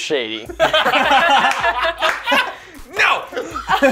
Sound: laughter

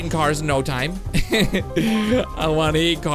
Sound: laughs

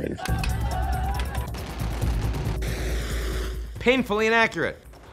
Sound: gun blares

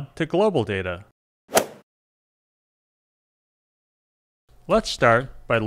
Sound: golf swing sound effect

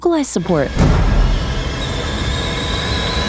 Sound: kettle whistle

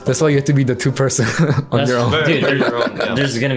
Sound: laughs

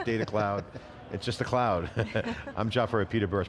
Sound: laughs

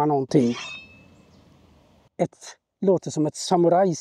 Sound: samurai sword swings

